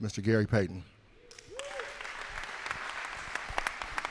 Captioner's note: cheers and applause